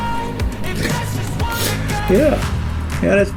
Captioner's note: laugh